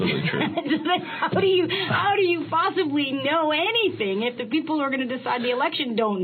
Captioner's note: laughing